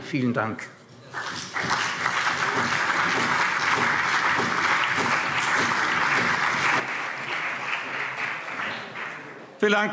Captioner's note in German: Beifall CDU, BÜNDNIS 90/DIE GRÜNEN und SPD